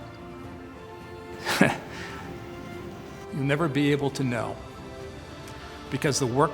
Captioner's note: chuckles